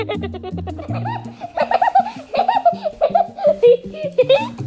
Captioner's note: laughing